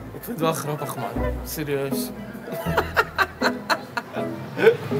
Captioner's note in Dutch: lacht